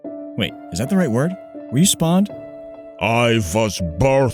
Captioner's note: none